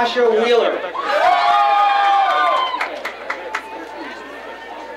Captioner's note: crowd cheering